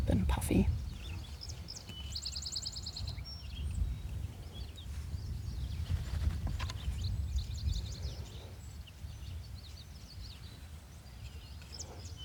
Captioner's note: birds chirping